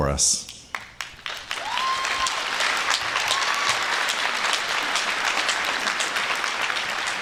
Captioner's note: applause